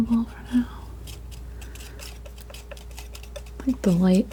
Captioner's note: crunching